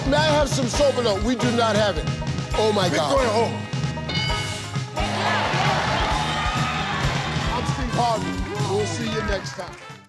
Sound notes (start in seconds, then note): 5.0 people applauding